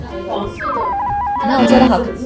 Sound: receiving signal

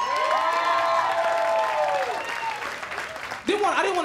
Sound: cheers and applause

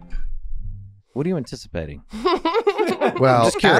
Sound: Meg laughing

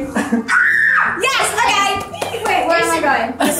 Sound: screams

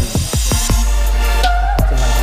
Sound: swallow

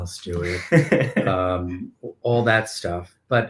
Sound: laughing

